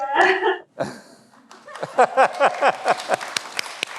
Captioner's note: laughs; everyone applauds